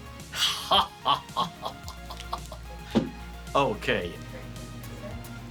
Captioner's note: comical laugh